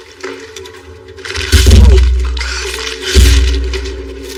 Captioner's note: pagages ripping